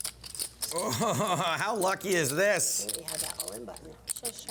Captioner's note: laughs